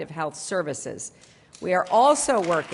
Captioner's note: applause